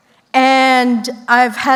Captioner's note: none